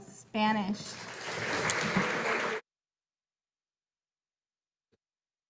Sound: audience applauding

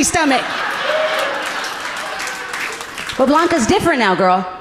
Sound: audience laughing gently

